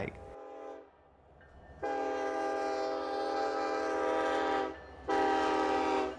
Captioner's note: train chugging; train whistles